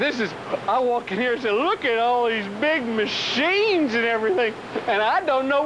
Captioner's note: talking like hick